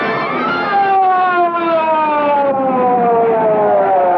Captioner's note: siren Wailing